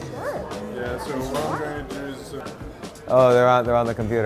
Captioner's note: male Voice